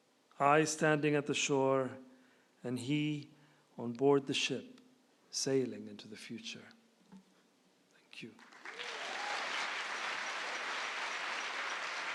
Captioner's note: applause